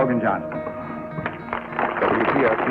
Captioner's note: applause